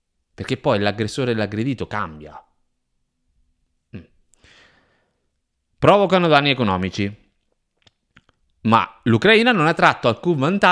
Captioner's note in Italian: si schiarisce la voce